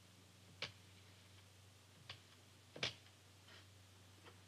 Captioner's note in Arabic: طقطقة القرص